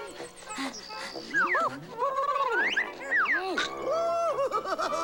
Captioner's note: panting, squealing and hooting